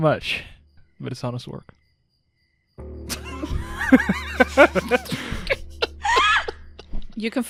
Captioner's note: laughter